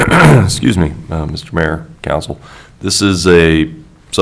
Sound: clears throat

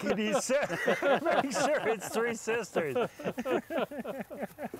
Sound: men laughing

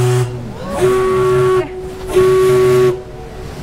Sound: ship's whistle

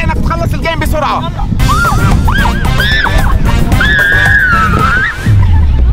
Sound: screaming

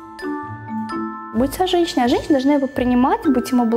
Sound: non-english speech

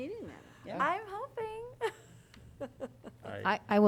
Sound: laughter

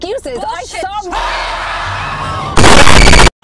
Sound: eleanor came screaming in horror front of theo and shirley; static noise

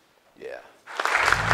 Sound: applause

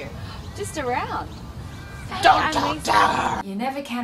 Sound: speaks angrily

